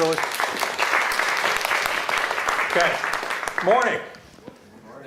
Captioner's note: applause